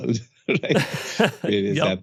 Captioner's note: both laughing